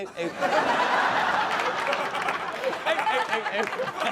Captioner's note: audience laughs